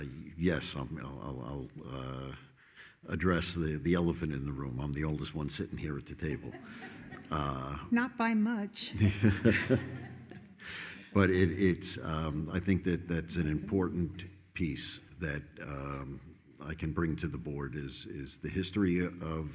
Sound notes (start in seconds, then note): 6.2 attendees laughing; 8.9 everyone laughing